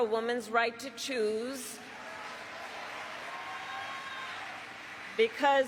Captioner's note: applause